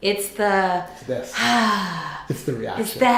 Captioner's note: exhales